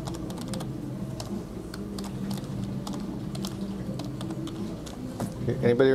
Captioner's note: typing